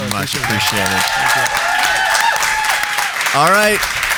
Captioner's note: audience applauding